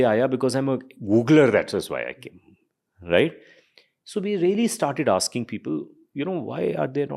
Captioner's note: speaks in Hindi